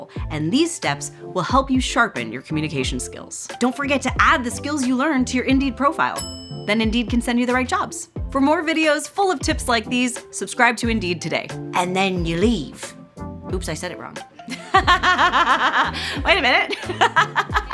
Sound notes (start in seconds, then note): 6.2 bell dings; 16.5 laughing; 16.5 laughs